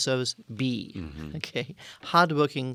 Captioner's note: laugh